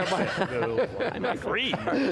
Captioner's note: laughing